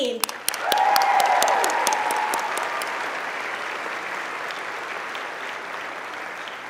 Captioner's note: applauding